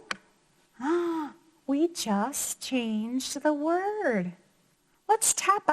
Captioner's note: gasps